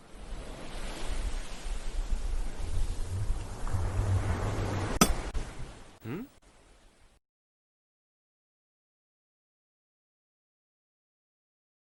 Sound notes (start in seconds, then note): 0.0 ocean sounds; 5.0 pickaxe hits stone